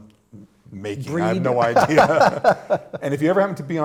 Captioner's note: laughter